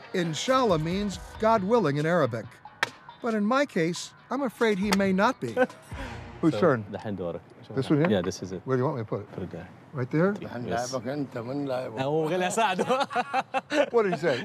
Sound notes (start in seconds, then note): 11.4 men speaking Arabic; 12.5 laughing